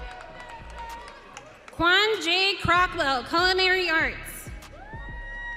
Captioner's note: audience cheering